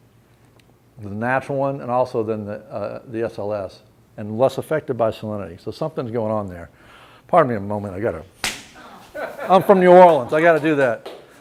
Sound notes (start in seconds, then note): 8.4 pop noise; 9.0 laughter